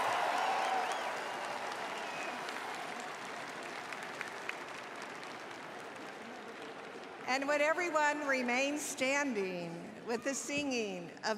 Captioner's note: cheers and applause